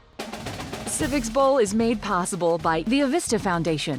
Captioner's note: voiceover